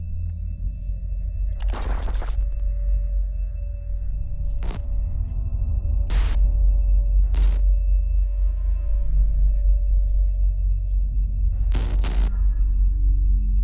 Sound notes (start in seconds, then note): 0.2 eerie music; 1.6 static crackling